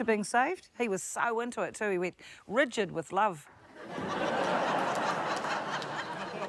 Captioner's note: laughter